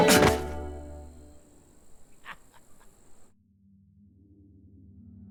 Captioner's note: body thudding; old man laughing